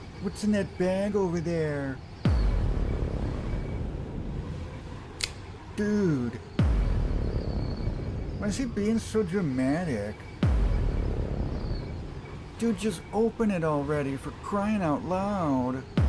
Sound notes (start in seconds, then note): 2.2 cinematic boom; 6.5 cinematic boom; 10.3 cinematic boom